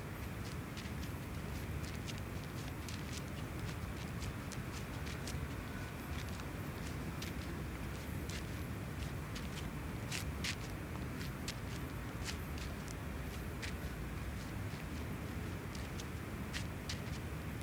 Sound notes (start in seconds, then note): none